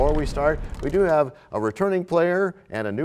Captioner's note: crashing sound